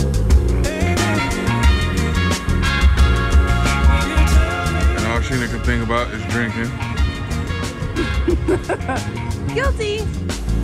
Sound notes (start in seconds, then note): 7.9 laughing